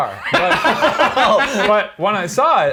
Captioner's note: laughs